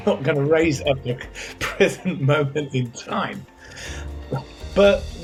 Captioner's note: chuckles